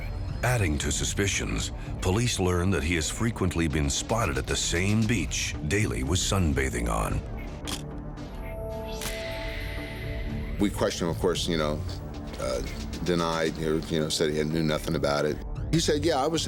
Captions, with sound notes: ADDING TO SUSPICIONS, POLICE LEARN THAT HE HAS FREQUENTLY BEEN SPOTTED AT THE SAME BEACH DALEY WAS SUNBATHING ON. [camera shutter click] WE QUESTIONED HIM OF COURSE, YOU KNOW, DENIED, YOU KNOW, SAID HE KNEW NOTHING ABOUT IT.